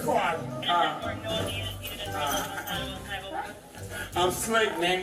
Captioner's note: radio chatter